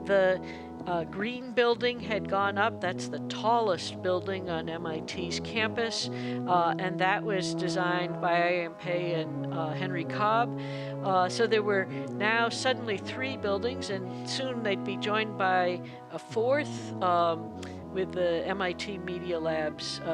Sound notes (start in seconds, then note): none